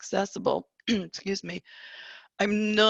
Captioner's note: small cough